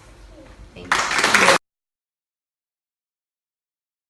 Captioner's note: clapping